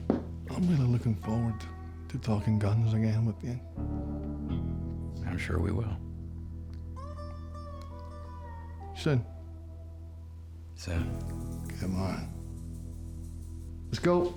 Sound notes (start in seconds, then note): 8.5 scottish accent